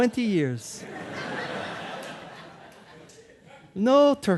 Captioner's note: audience laughing